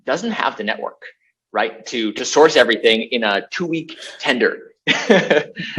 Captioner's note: laughs